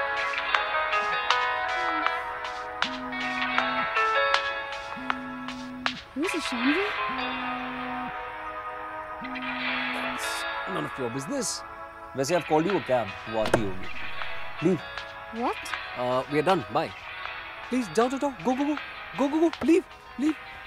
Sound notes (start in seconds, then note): 1.7 girl moaning; 3.0 cell phone vibrating; 13.4 door opens